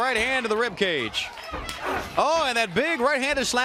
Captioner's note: crowd cheering